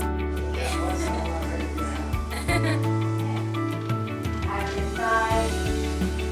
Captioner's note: laughs